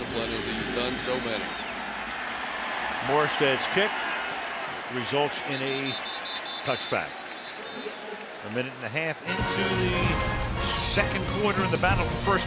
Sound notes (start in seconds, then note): 7.5 whistle blows